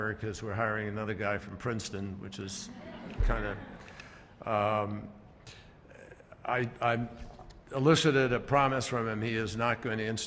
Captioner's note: laughter